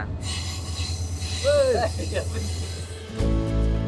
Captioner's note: laugh